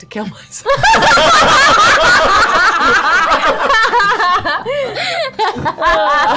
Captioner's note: laughter